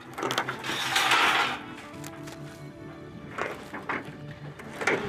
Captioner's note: metal debris clanging